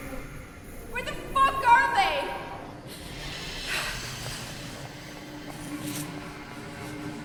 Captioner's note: sighs